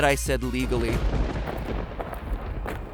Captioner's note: heavy footsteps; thunder crash